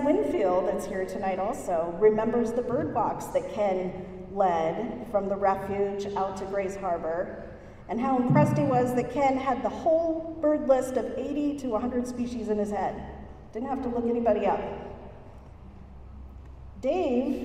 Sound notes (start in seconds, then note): none